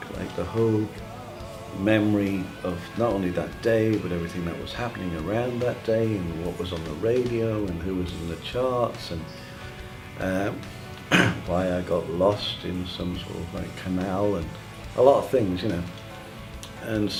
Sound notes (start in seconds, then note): 11.0 cough